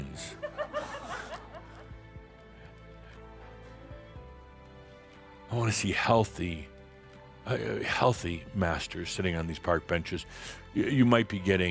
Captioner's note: some chuckles